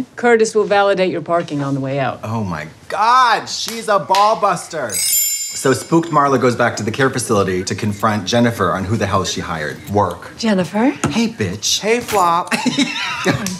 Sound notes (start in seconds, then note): 4.8 chimes; 12.3 beep